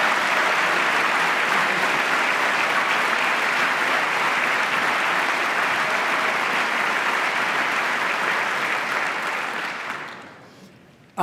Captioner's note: applause